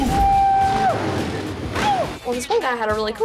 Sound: whooping

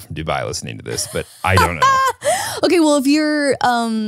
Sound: laughs

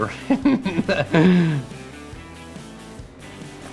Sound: laughing

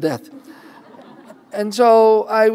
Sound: laughter

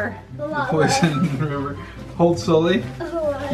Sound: laughs

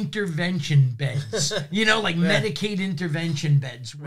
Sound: laughs

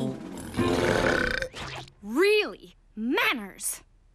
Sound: belching

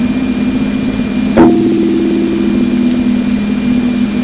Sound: gong

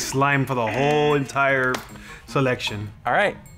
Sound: buzzer

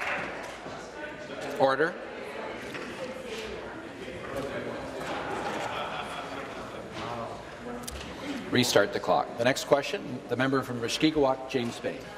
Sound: applause

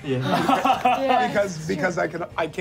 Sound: laughing

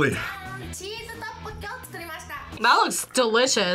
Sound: woman speaks Japanese

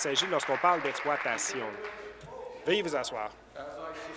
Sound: applause

